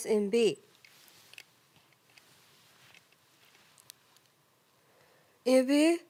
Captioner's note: rustling